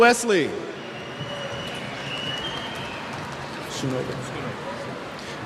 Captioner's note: cheers